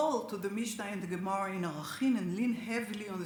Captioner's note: speaks Hebrew